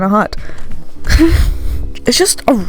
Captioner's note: giggles while blowing volume levels on mic